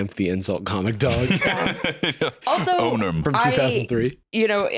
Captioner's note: laughs